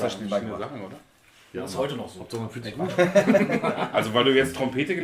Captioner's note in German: lachen